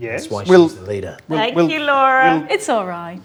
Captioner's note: overlapping chattering